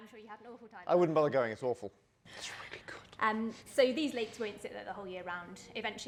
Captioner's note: whispers